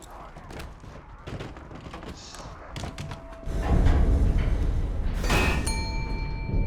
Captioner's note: rattling, knocking; elevator dings